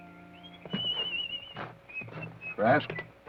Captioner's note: whistles melodically